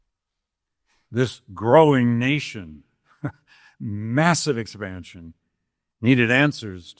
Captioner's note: chuckles